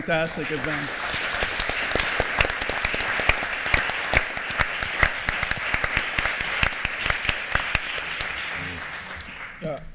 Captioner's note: applause